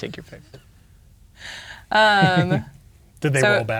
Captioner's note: chuckling